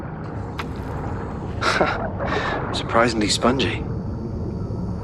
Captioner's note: laugh